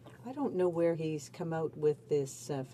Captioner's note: speaking in french